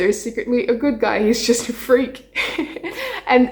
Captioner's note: laughs